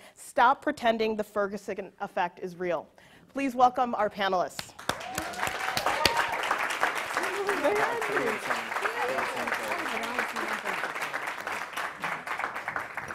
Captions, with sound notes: Stop Pretending the Ferguson Effect is Real. Please welcome our panelists. (audience cheering and applauding)